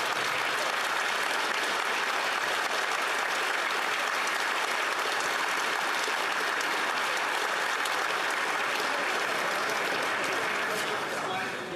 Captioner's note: applause